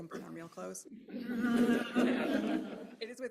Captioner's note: laughter